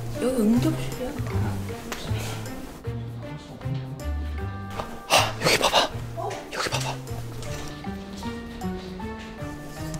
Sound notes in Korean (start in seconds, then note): 5.1 짧은 탄성